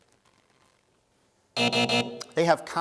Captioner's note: buzzing